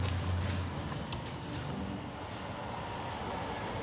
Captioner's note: train rattles